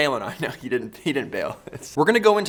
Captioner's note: chuckling